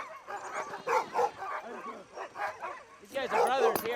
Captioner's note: dogs barking